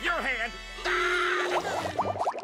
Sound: screaming

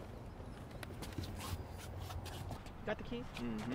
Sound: feet shuffling

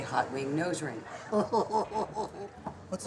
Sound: laughing

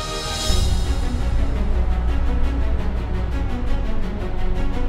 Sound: diesel engine running

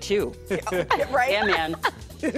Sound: laughter

